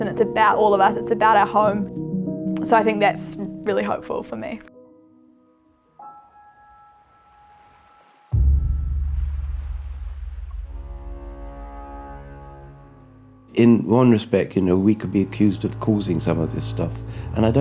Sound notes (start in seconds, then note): 6.6 gentle music; 6.6 waves crashing; 10.8 dramatic music